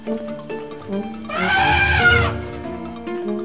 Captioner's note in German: Wiederholtes Elefantenbrüllen